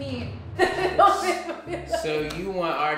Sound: laughter

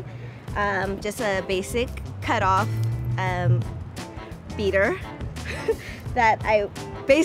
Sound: chuckles

